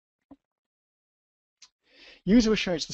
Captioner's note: pause